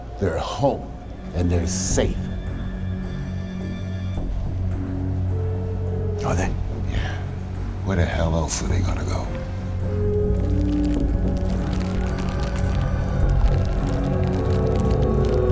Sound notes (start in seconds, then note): 2.8 tense music; 10.4 paper rustling